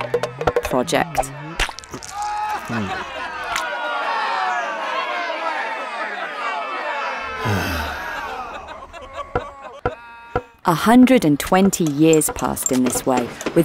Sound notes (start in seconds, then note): 0.9 crowd heckling; 7.2 sighs; 10.3 mallet banging